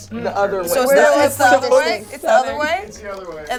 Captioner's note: overlapping chatter